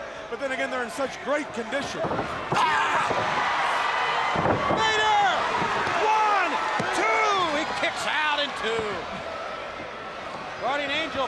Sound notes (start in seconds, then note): 2.6 crowd cheering